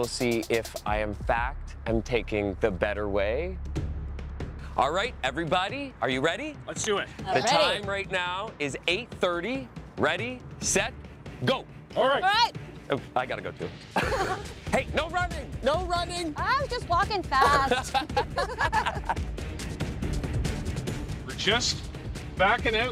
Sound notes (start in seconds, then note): 14.0 laughs; 17.4 both laughing; 18.7 tense music